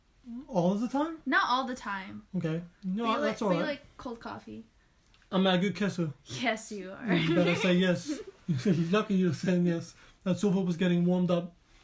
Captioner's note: laugh